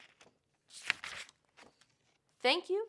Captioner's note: paper rustles